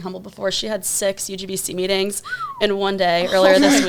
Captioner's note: whistles